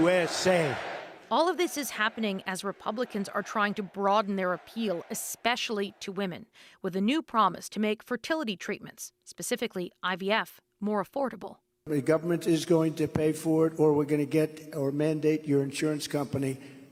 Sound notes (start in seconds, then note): 3.1 chants